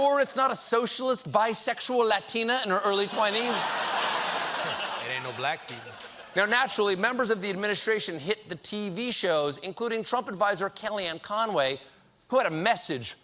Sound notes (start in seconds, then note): 2.9 laughter